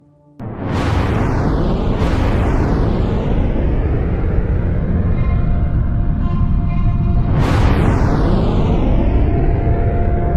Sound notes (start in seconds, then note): 0.4 missile Launch Rumble; 6.7 dramatic Music